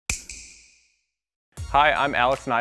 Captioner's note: snap